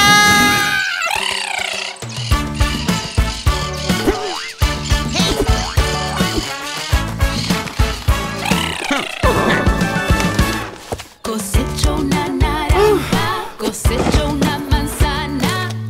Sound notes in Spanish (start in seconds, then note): 0.0 Grito; 0.3 Sonido de cotorras; 7.1 Música alegre